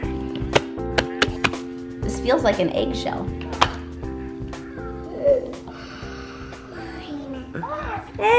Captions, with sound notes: - There it is. - This feels like an eggshell. (gasps) - Mine.